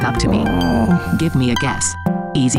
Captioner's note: MaleV grumbles